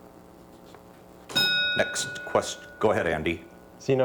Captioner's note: bell dings